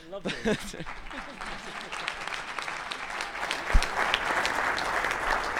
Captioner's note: clap